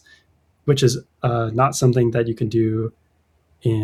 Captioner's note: uh